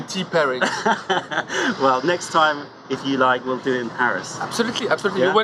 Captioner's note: laughter